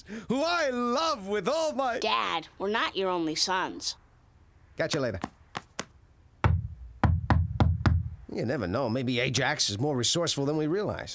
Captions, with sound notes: who I love with all my... Dad, we're not your only sons. Catch you later. (pounding on door) You never know. Maybe Ajax is more resourceful than we realize.